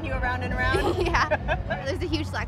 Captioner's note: laughter